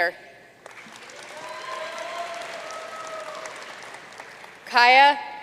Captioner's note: audience cheering and applauding